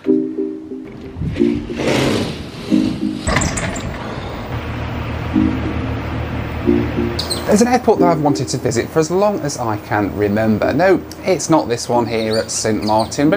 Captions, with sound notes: (gentle music) (door shutter opens) - There's an airport that I've wanted to visit for as long as I can remember. No, it's not this one here at Saint Martin,